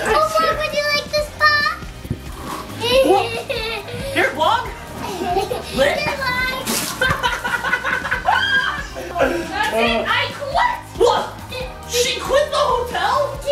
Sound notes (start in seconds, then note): 2.8 giggles; 7.0 laughs